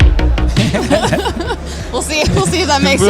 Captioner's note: both laugh